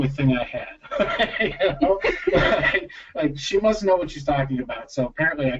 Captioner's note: laughter